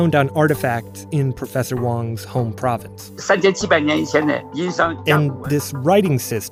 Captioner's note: speaking Mandarin